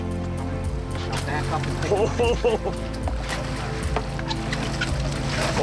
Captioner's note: man chuckling